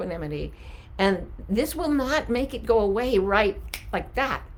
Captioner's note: snapping